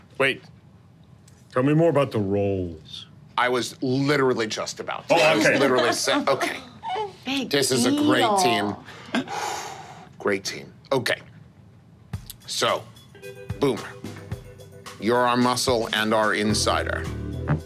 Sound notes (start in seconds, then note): 8.8 exhales